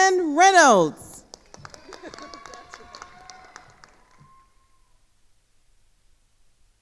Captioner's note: attendees cheering and applauding